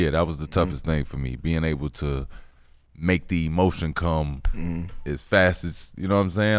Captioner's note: snaps